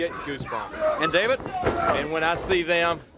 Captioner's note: crowd cheering